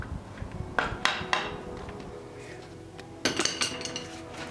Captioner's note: hammer tapping